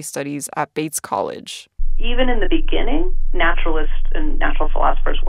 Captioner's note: soundbite of archived recording